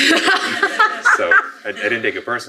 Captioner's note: laughing